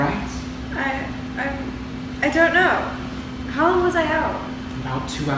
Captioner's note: stammering